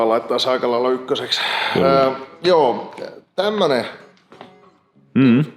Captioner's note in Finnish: puhujan huokaus